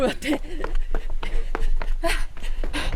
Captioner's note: speaking in foreign language